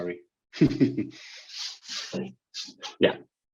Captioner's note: chuckles